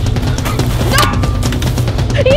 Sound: loud clank

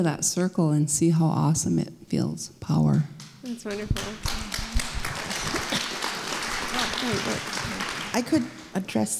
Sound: applause

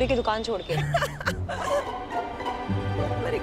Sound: giggling

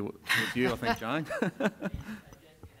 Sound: laugh

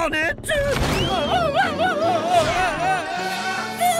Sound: screaming

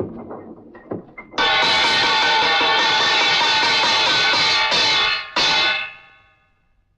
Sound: bell rings

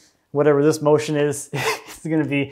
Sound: laughs

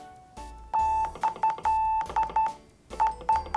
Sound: morse Code sound

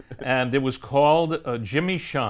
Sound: chuckles

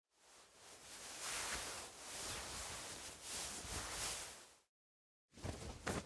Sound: 이불 속에서 사람 움직이는 소리; 이불 바스락거리며 일어나는 소리

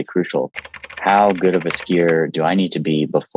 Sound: keyboard clicking

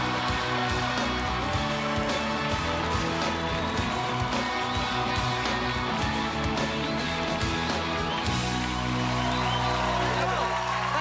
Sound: applause

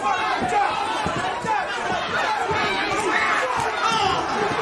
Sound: crowd shouting

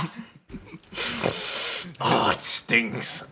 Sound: sniff

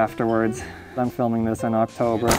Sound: sigh of fear

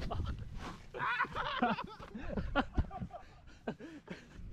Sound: laughs

